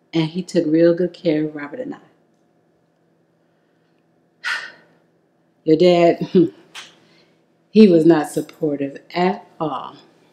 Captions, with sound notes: and he took real good care of Robert and I. (sighs loudly) Your dad (chuckles softly), he was not supportive at all.